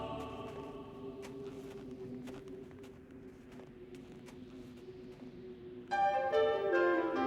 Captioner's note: soft orchestra music; crunching snow; soft orchestra music